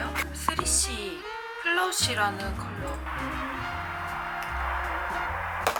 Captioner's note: flush